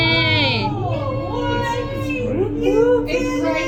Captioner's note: people gasping and cheering